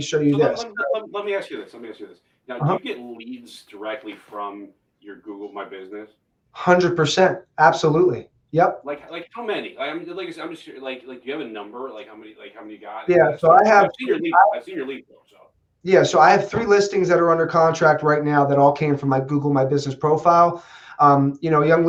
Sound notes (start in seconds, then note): 15.2 voice muffling